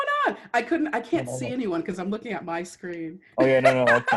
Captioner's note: laughter